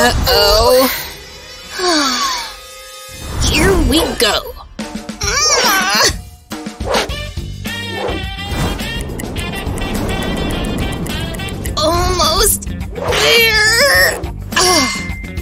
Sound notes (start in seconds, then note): 3.5 yawning and stretching